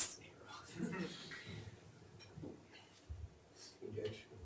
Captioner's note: laughs